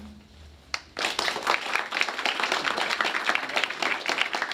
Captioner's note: applause